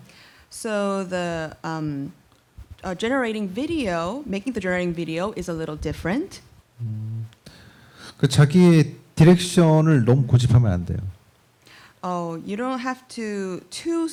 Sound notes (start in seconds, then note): 8.2 speaking korean